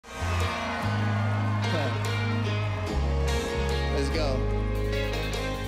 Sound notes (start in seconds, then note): 0.0 crowd cheering; 2.5 laughs